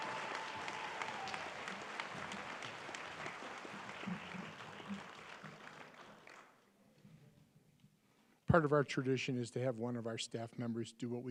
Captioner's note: applause